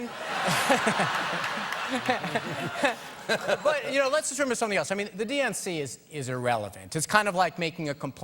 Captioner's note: laughter